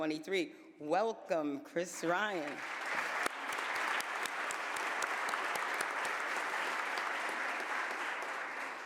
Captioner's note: applause